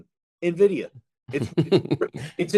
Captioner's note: laughs